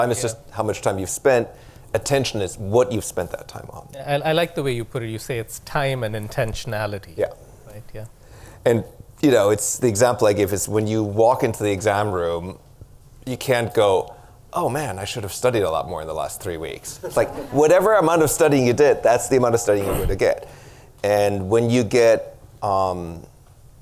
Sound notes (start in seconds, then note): 17.0 audience laughter